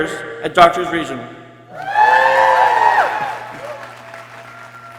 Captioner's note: people cheering